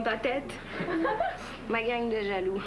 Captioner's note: Rires